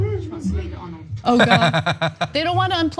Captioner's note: laugh